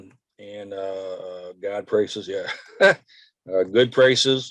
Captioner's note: chuckles